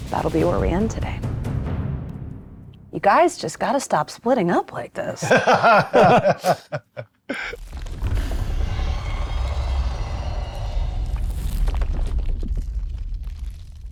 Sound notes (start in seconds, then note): 5.2 laughs